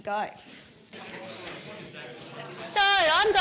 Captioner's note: audience discussion